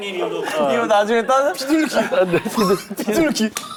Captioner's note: cracking himself up